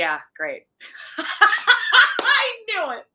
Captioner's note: laughing